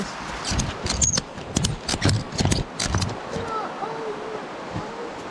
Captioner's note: clasps clicking